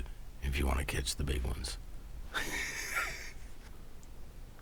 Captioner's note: laughs